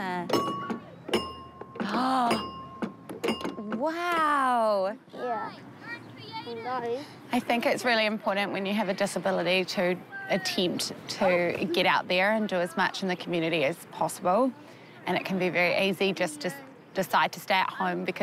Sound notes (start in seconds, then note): 0.3 ding! dong!; 1.1 ding!; 1.8 gasps